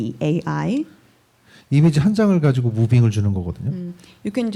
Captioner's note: speaking korean